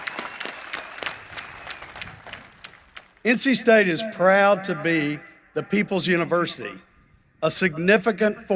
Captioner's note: cheering and applause